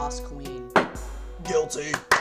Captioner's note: gavel slams; applause